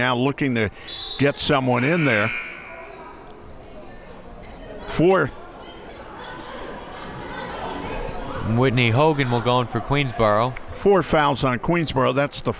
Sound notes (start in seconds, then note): 6.9 crowd members talking